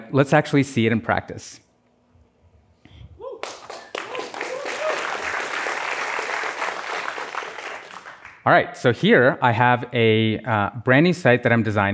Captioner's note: applause